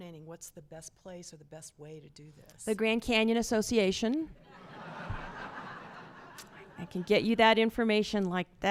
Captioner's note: laughter